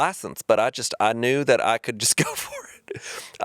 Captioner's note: chuckling